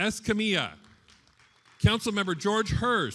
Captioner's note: attendees applauding